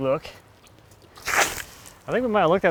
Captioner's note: water splashing